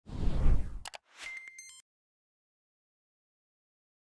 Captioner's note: logo whooshing